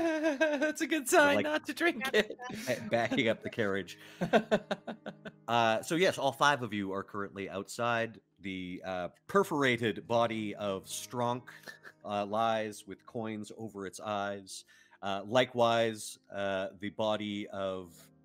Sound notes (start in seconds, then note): 0.0 laughing; 4.2 laughing